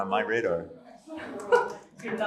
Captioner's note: laughter